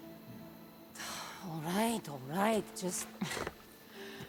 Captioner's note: sigh